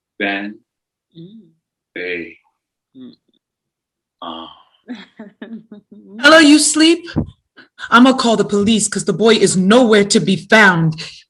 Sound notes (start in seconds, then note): 4.2 moans; 4.9 giggles